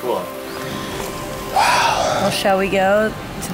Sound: sighs

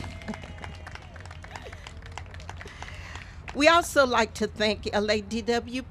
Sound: applause

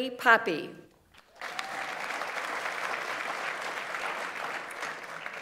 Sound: audience applauds

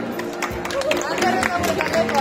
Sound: applause

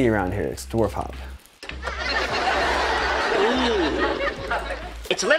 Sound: laughs

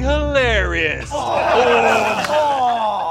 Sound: Achievement Hunter laughing and taunting; laughing

